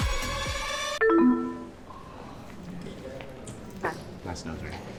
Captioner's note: upbeat music; electronics beep